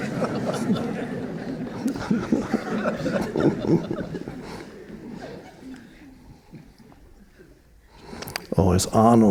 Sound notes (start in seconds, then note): 0.0 audience chuckling; 1.8 Eckhart chuckling